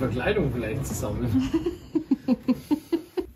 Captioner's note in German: haha